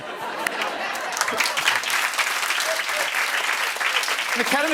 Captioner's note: laughter and applause